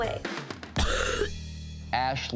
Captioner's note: coughing